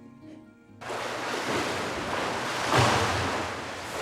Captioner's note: water splashing